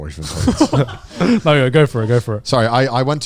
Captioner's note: all laughing